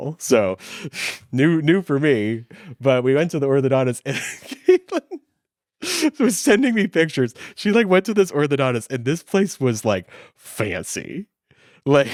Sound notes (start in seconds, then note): 4.1 laughs